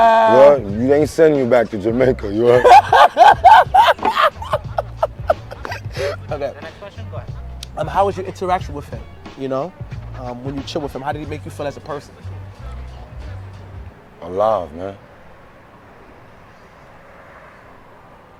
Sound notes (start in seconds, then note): 2.5 laughing